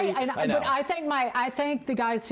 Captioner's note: laughter